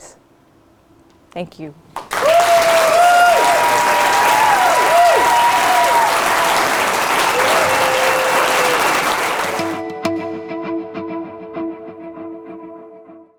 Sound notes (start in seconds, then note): 3.8 applause